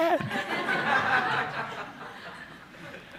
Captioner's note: laughter